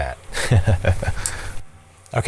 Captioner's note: laughs